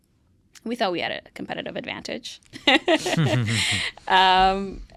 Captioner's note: laughs